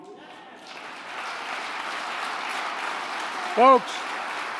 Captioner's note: applause